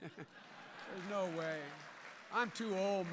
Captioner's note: laughter and applause